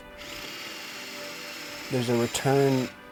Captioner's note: power tool whirring